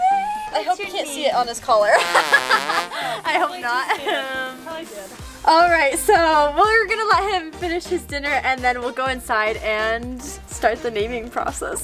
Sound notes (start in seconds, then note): 1.9 laughing; 4.6 murmurs